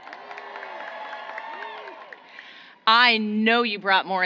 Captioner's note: applause